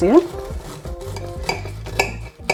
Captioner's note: crunchy slicing